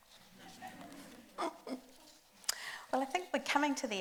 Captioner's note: group laughs